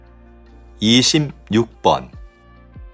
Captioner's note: Korean audio